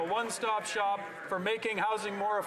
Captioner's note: some Applause